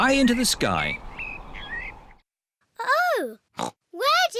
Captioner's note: oinks